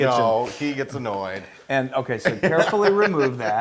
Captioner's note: laugh